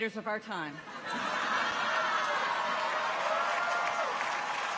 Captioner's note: audience laughs; people cheer; audience applauds